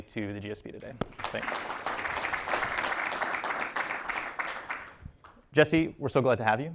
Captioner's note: applause